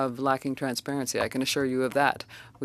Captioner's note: speaking French